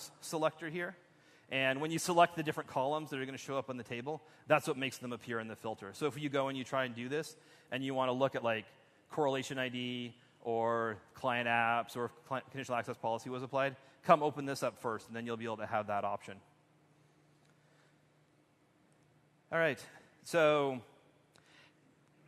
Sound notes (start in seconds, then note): none